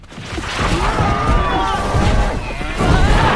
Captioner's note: men screaming in fear; screaming continues